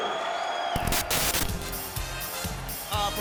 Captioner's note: static hissing; disco music